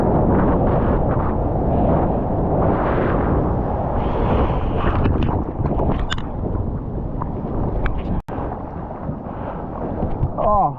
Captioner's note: wind